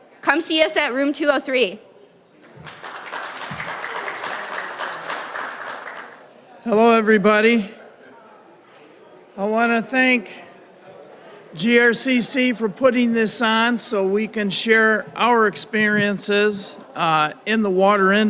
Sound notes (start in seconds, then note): 2.5 applause